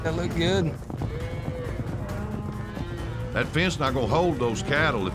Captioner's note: cows mooing